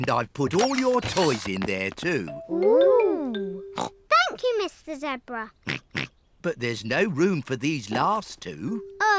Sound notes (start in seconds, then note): 3.8 snorts